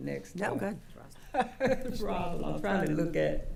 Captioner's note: laughing